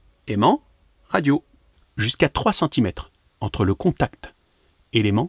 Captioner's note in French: none